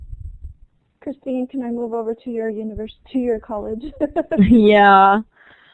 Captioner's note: laughter